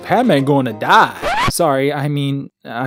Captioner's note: record scratch